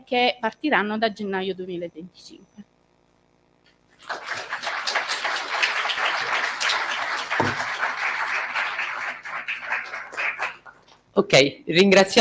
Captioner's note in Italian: Applauso